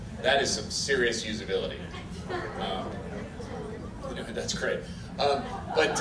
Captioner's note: giggling from front rows of the audience as stage hands corner the bug